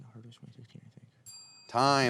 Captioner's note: bell dinging